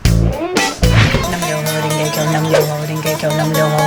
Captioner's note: chanting